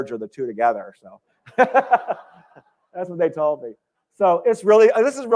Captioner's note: laughter